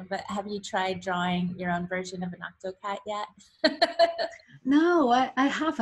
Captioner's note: laughs